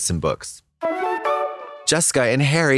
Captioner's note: whimsical chime